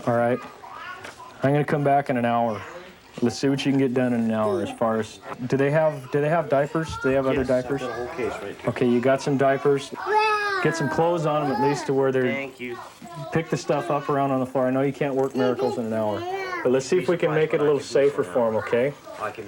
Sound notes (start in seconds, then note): 10.0 crying